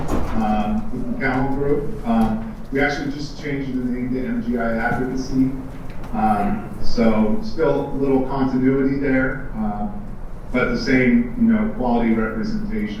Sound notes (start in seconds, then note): none